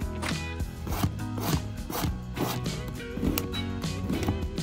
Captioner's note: knife chopping; bright music continues